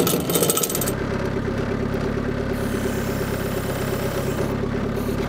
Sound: motor rumbling

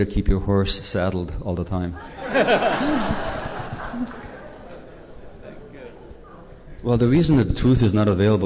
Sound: laughter

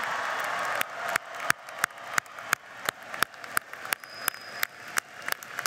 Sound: cheering and applause

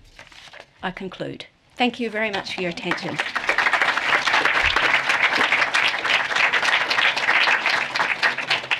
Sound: applause

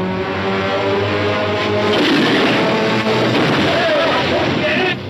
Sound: cannon roaring

